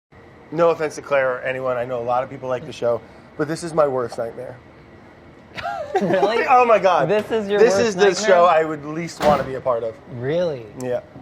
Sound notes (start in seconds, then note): 5.5 chuckling